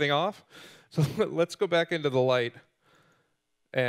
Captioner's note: laughing